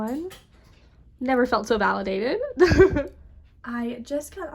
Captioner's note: laughing